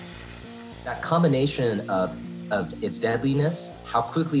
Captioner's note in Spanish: experto 1 hablando en inglés